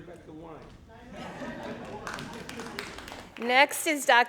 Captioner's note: crowd laughing; crowd applauding